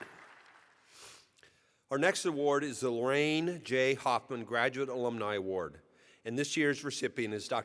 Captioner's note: applause